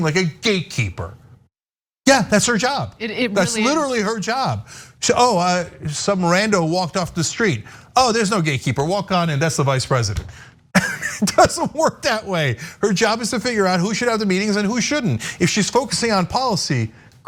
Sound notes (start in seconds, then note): 10.8 laugh